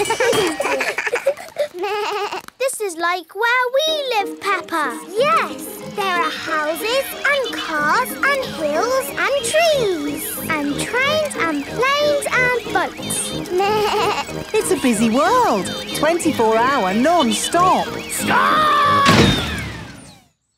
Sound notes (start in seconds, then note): 0.0 all laugh; 13.5 bleats; 19.0 thuds